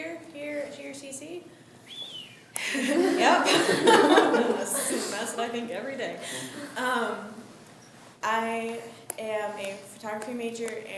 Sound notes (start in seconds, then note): 1.8 student whistles; 2.6 laughs